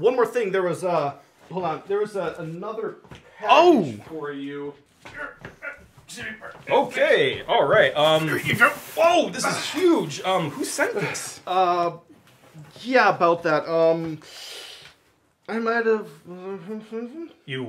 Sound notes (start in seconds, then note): 5.2 delivery Man grunting